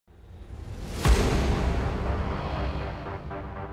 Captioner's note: whoosh